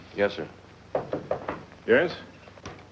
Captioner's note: knocking